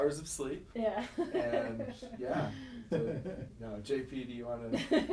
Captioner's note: laughing